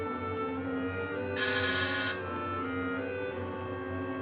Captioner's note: doorbell buzzing